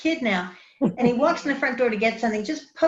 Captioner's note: woman laughs